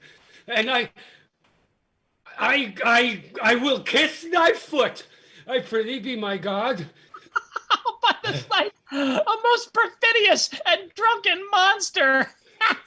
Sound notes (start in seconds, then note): 7.0 laughing